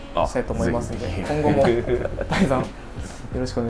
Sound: laughs

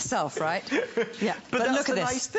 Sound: laughter

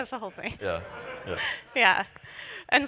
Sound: laughter

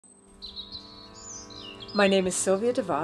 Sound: birds chirping

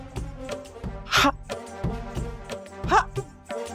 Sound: stammers

